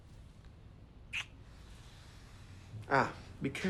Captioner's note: lips smacking